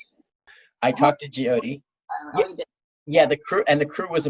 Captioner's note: audio cuts out